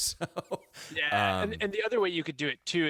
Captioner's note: laughs